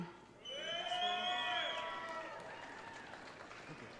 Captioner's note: audience cheering